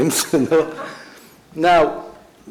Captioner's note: laughs